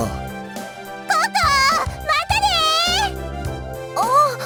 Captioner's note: shout